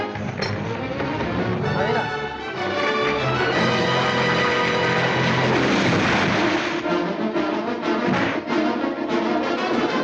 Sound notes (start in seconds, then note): 5.0 crashing